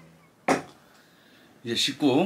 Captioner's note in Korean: 쾅!